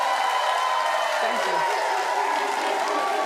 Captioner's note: audience cheering and applauding